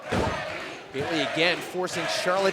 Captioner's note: fans chanting